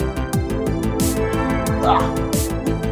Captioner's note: ahh!